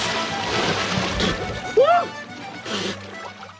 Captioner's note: spits